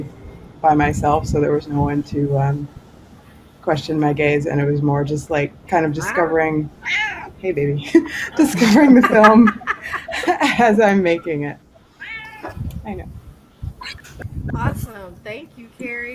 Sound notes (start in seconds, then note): 12.1 cat purring; 13.8 laughter